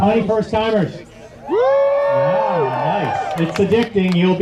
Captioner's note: crowd